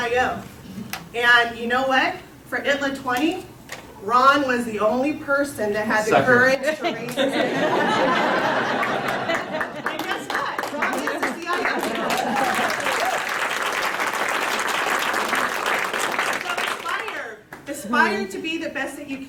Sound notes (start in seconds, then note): 8.3 applause; 8.3 laughter